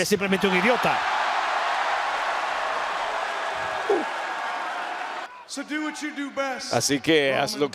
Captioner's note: applause